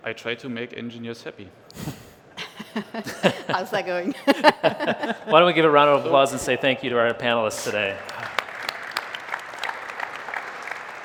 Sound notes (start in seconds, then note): 2.4 laughter; 7.0 applause